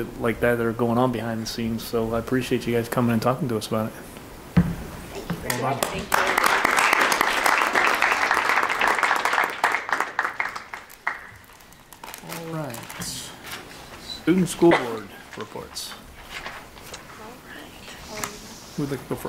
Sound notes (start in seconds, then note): 7.4 audience claps